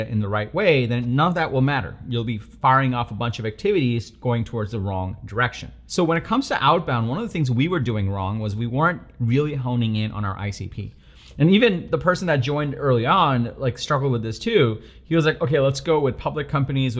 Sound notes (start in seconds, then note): none